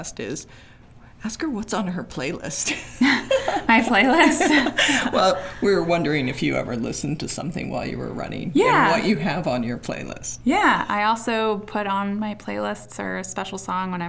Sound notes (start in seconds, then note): 2.6 both laughing